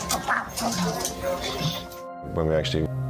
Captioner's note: happy chatter